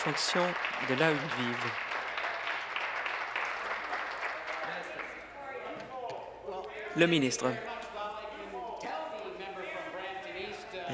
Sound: applause

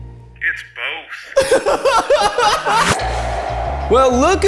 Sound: group laughing

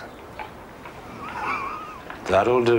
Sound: chuckles

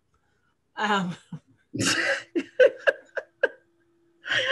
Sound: laughs

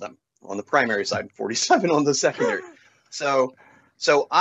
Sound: laughter

